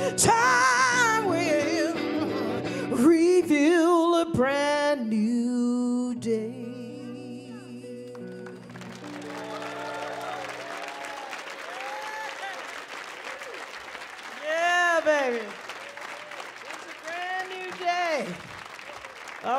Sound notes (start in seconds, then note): 8.8 audience cheering